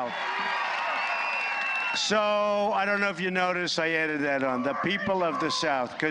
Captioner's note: applause